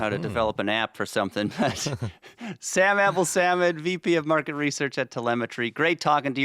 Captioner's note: both chuckling